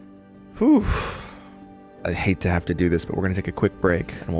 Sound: sighing

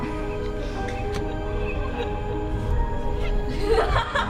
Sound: distorted laughing

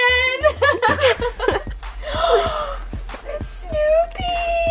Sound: laughter

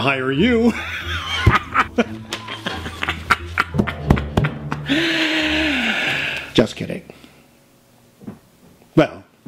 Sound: laughs a lot then stops immediately; takes a deep breath

